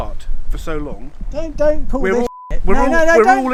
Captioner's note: beep